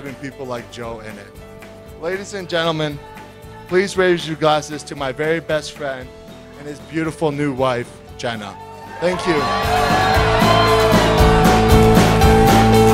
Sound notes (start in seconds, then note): 8.6 cheers; 9.1 applause